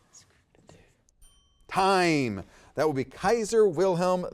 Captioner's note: timer dings